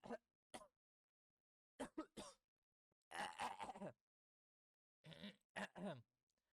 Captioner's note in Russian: кашель